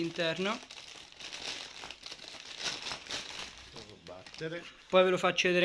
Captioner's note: noise bag